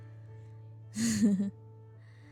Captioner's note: laughs